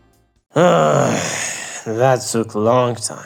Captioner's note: breathes out like a damn zombie